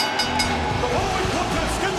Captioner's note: bell dinging